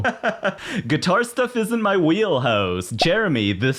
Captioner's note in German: lacht